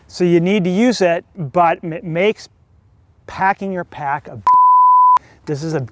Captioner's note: beeping